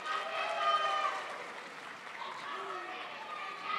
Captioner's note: crowd applauds